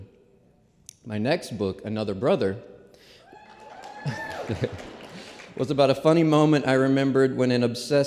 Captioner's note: applause